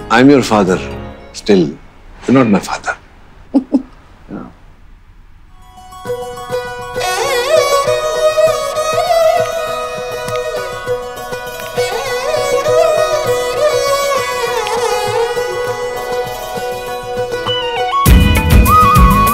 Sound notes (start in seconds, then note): 3.5 Bani laughing